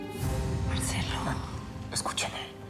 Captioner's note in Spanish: susurra